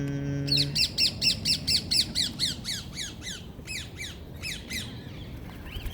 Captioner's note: parrot squawks in reply